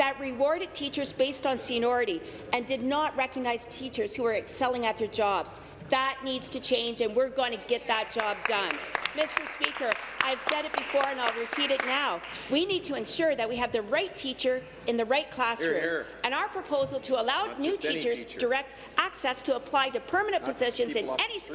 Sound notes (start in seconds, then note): 13.4 some applause